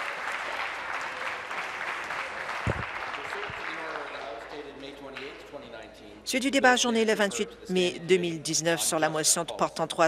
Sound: applause

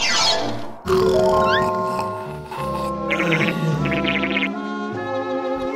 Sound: snores continue

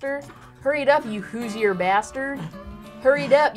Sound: in "Southern" accent

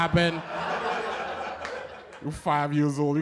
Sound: laughter

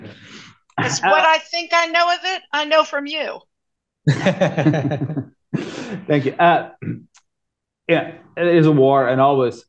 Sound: laughter

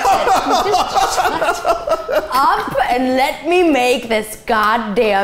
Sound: laughing

